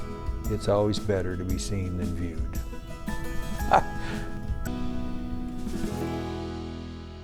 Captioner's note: laughs